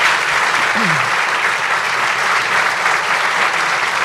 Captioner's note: applause